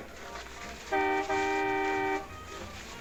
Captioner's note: car honking